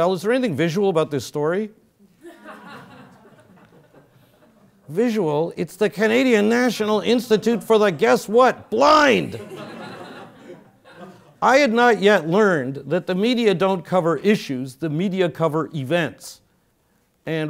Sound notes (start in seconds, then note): 2.2 laugh; 9.2 laugh